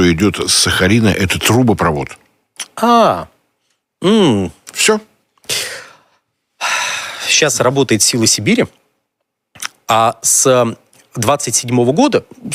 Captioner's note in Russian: вздыхает